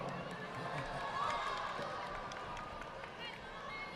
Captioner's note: audience applauding